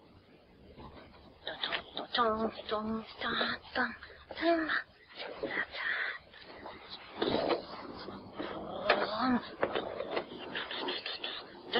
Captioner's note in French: chantonne, fais des effets sonores avec sa bouche